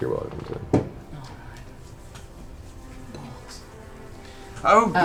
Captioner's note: whispers